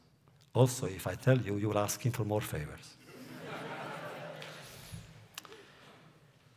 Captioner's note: laughter